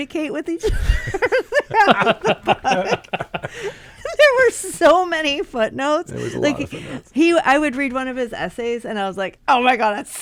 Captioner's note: all laugh